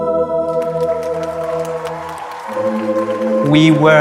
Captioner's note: audience claps